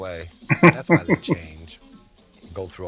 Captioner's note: chuckling